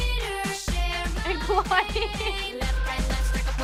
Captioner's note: laughs